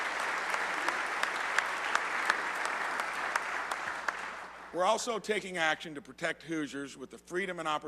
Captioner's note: applause